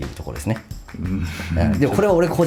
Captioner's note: laughs